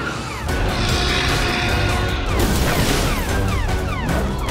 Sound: sirens blare; dinosaur roars

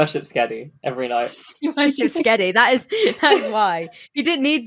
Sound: laughing

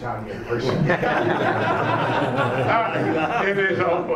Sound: laughing

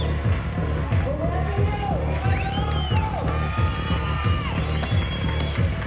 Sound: cheers and applause

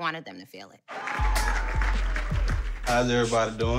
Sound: applauding

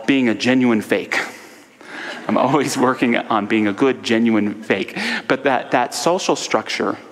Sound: audience laughter

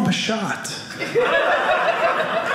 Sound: audience laughing

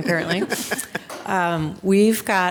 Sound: group chuckling

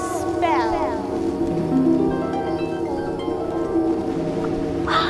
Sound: magic sound

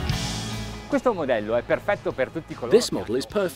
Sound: speaks in foreign language

